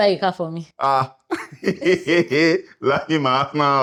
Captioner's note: laughs